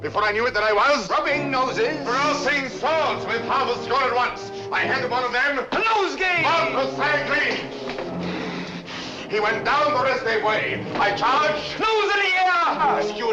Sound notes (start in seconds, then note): 7.6 breathing heavily